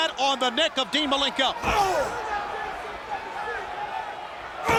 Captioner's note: grunts